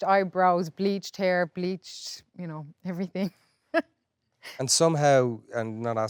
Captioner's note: laughs